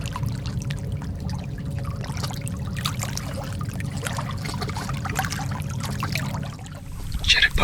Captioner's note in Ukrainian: чути плескіт води